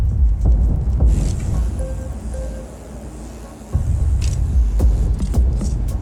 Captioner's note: insect buzzing